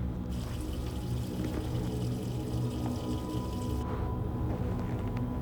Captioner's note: water facet running